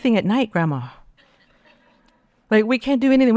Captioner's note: audience laughing